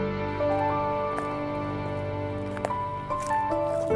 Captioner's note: leaves crunching